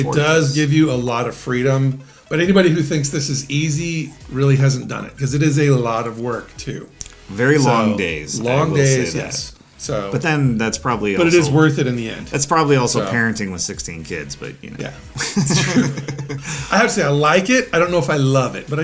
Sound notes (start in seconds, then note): 15.1 both laughing